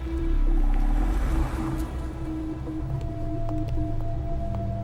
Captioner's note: engine rumbling